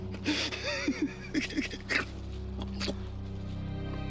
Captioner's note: laughs; gasps